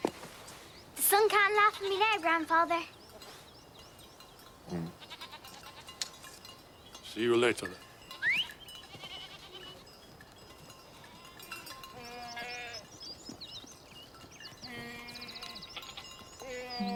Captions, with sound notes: The sun can't laugh at me now, grandfather. Hm...see you later then. [Peter whistles] [bell ringing] [goats bleating]